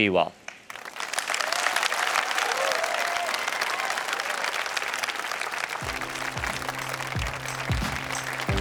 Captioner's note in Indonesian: tepuk tangan